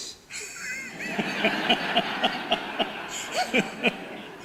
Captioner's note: audience laughter